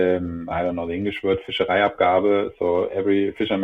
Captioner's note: speaking in foreign language